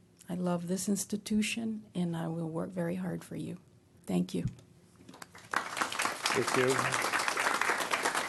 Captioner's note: applause